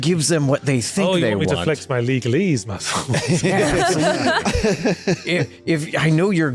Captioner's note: laughter